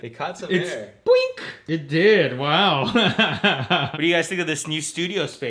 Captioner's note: laughs